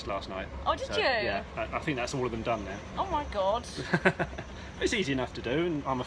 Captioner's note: laughs